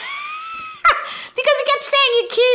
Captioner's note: laughing